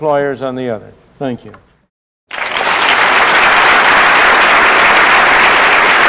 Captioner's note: applause